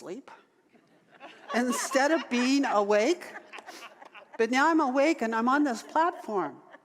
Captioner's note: audience laughter